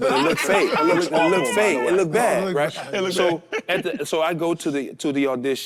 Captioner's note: group laughs